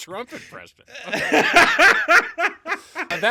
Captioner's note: laughing